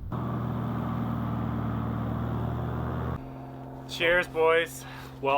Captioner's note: plane whirring